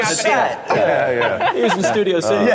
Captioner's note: laughter